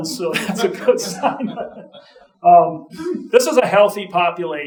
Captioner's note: audience chuckling